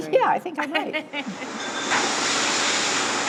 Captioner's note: laughs